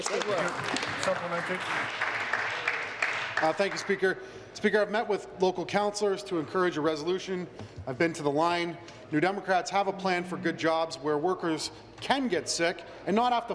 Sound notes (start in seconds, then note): 3.5 applause